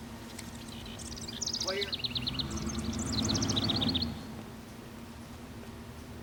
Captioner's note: engine whirring